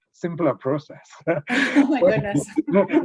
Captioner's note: laughs